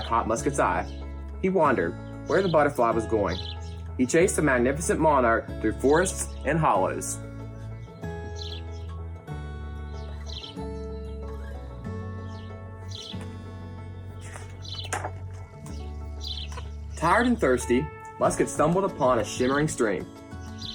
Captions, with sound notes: caught Musket's eye. He wondered where the butterfly was going. He chased the magnificent Monarch through forests and hollows. (upbeat music) (birds chirp) Tired and thirsty, Musket stumbled upon a shimmering stream.